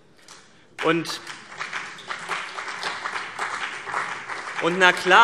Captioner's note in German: Beifall CDU und BÜNDNIS 90/DIE GRÜNEN